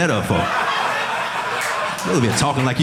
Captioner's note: audience laughing